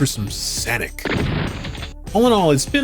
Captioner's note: gunshot